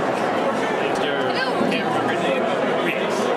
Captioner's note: indistinct crowd chatter